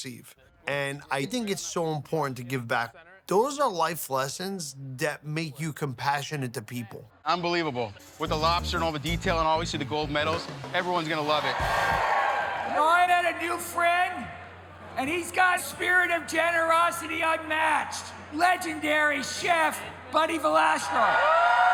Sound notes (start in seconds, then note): 11.8 crowd cheers; 21.5 crowd cheers